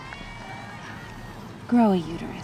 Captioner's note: people applaud